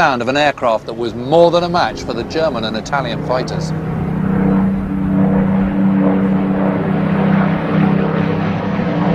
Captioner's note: plane engine roars